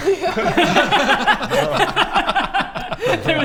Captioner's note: yeah...probably laughter